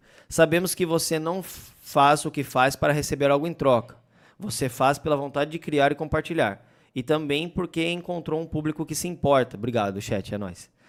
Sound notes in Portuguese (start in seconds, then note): none